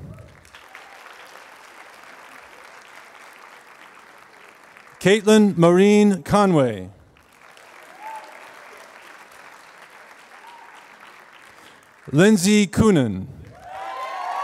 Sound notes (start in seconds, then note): 0.1 applause; 7.1 applause; 14.1 applause